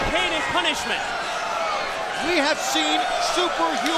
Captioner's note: crowd chatter